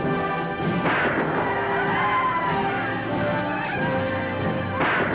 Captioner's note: guns fire; gun fires; Indians howl; gun fires